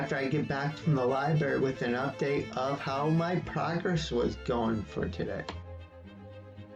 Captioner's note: click